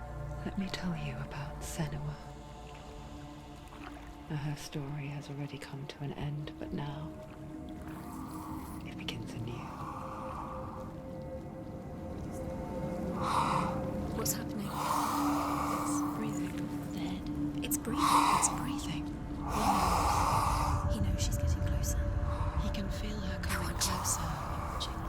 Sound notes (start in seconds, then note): 12.9 raspy breathing; 14.0 female voice; 15.6 female voices; 19.3 raspy breathing continues